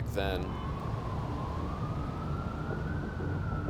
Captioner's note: sirens and traffic